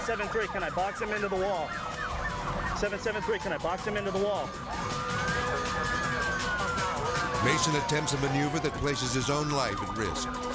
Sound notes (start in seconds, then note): 5.7 dispatch chatters; 5.7 sirens wailing